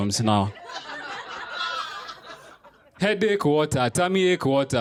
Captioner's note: laughter